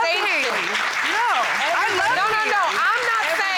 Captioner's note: audience applauds